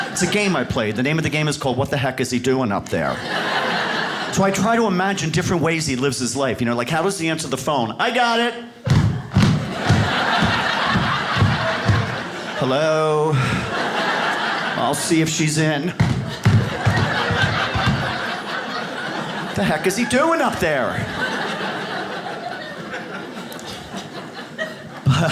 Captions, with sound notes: It's a game I play, the name of the game is called, "What the heck is he doing up there?" So I try to imagine different ways he lives his life. You know like , how does he answer the phone? "I got it. (shoes pounding on floor) (audience laughs) "Hello? "I'll see if she's in." (shoes pounding on floor) (audience laughs) The heck is he doing up there? (audience laughs)